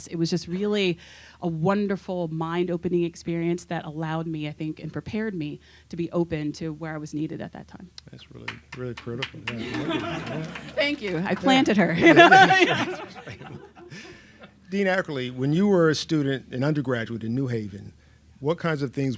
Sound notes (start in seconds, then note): 8.4 applauds; 13.9 laughs